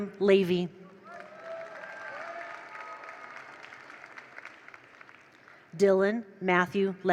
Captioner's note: attendees cheer; attendees applaud